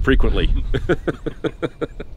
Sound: laughs

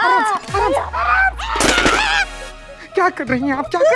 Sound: yells

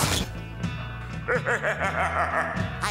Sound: laughing

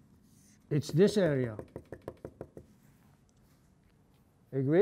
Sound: tapping

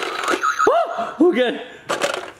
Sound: screams

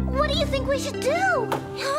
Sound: footsteps

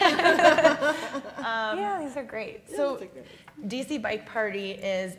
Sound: laugh

